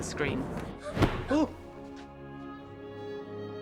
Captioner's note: gasps